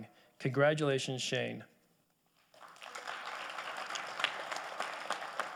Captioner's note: audience applauding